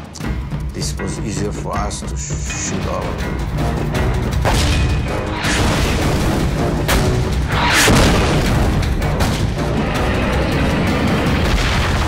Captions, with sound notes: This was easier for us to shoot all of them. (explosions booming) (dramatic music)